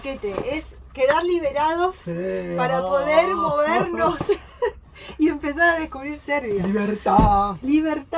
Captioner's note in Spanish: risas